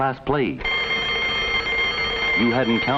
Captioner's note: fire bell ringing